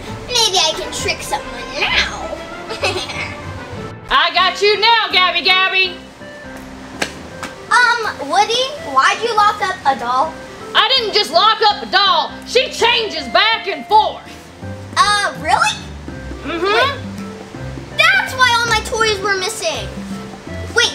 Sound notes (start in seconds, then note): 2.6 Gabby Gabby chuckles